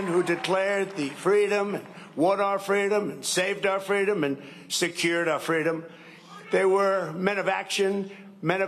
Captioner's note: cheering and applause